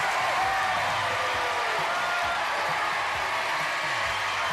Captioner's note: cheers and applause